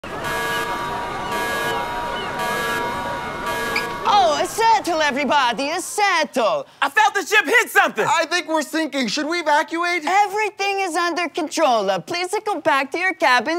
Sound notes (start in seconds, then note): 0.0 alarm blares; 4.3 Italian accent